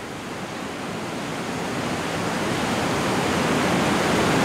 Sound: water whooshing

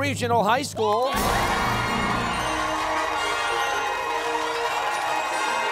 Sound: cheers and applause

